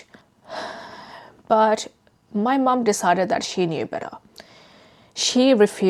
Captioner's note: sighs